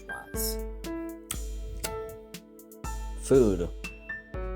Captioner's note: more lip smacking